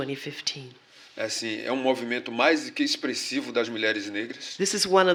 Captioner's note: speaking portuguese